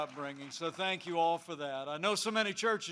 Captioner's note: applause